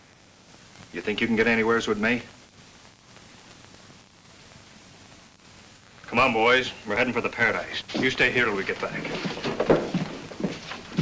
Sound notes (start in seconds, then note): none